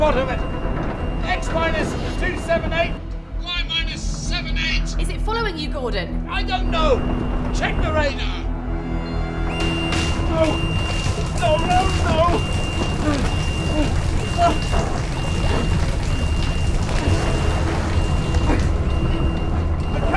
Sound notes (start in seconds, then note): 9.4 button beeps; 11.9 grunting; 15.4 ominous music; 15.4 water pattering